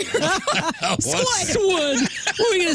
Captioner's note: laughing